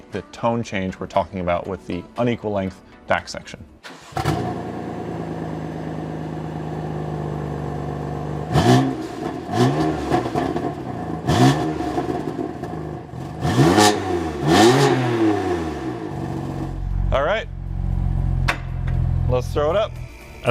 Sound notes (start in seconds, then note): 3.8 engine cranks; 8.8 engine revving